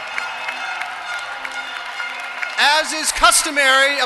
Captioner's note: applause